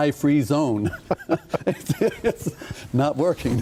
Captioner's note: laughing